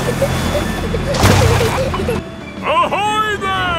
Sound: peppa and george giggling

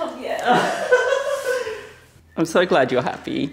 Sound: laughs

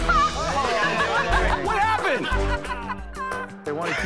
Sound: laughter

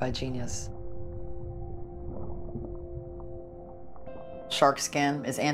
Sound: water gurgles

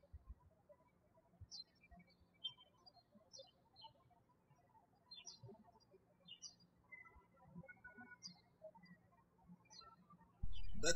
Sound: birds chirping

